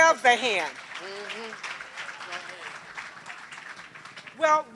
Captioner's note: applause